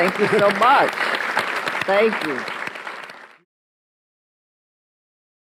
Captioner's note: audience applauds